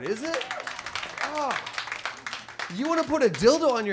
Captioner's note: audience applauds